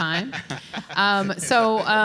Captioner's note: panelists laugh